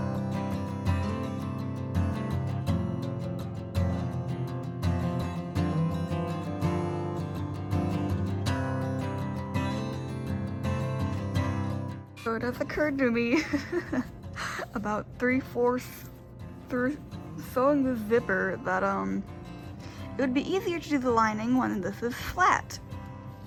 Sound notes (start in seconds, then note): 13.3 laughing